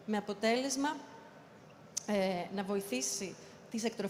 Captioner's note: none